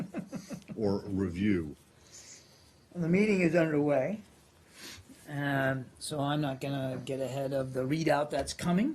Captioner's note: laughter